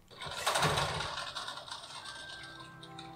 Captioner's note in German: mysteriöses Rattern; mysteriöses Rattern unterlegt mit mysteriöser Musik